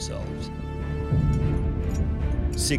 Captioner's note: shackles clanking